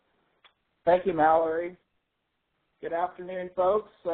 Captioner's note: voiceover